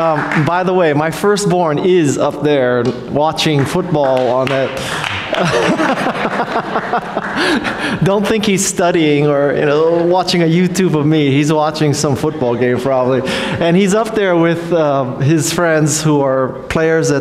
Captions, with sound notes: By the way, my first born is up there watching football on a... (laughs) Don't think he's studying or know, watching a YouTube of me. He's watching some football game probably. And he's up there with his friends who are players